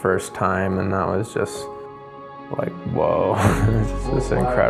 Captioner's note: laughs